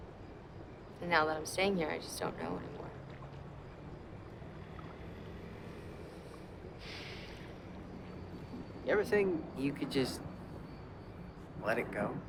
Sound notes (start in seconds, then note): 6.8 sigh